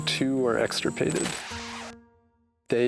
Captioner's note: screen buzzes